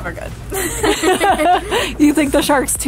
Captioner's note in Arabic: ضحك